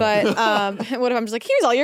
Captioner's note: laughs